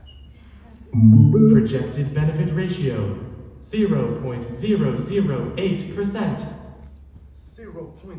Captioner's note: computer noise